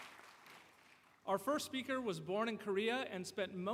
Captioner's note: cheers and Applause